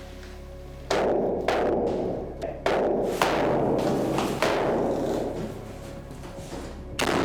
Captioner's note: dark loud metal sounds